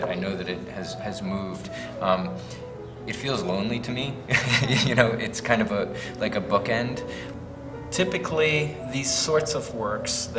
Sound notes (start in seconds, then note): 4.3 chuckles